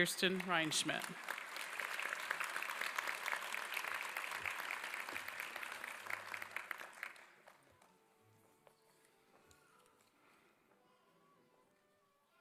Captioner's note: applause